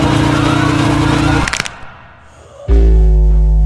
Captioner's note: neck breaks